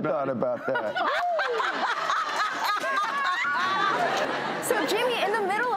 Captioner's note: everyone laughs